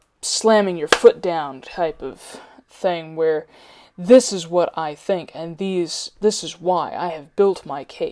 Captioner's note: clap